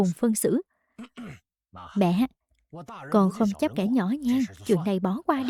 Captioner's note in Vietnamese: hắng giọng